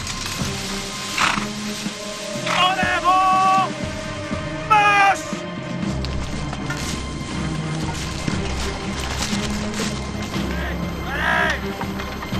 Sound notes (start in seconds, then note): 0.1 leaves rustle; 1.1 horse whickers; 2.3 commander shouts orders in French; 5.6 grass crunches underfoot; 10.4 soldiers shout